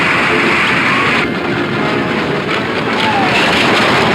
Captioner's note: wagon wheels rumbling; wheels crashing; dramatic music